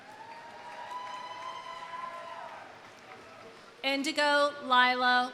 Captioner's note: audience cheering; audience applauding